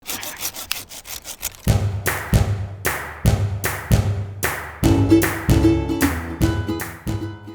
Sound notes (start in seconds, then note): 0.0 sawing through branches